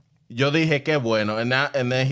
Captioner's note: speaking In Foreign Language